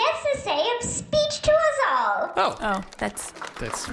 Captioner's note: polite applause